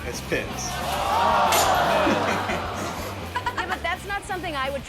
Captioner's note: shouting